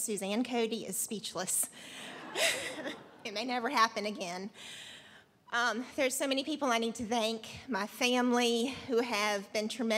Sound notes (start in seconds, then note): 2.0 laughter